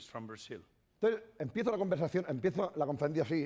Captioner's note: speaking spanish